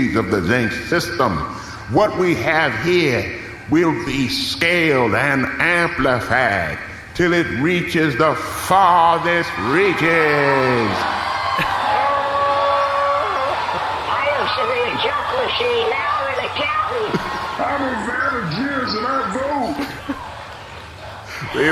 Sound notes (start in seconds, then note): 13.6 wild cheering and applause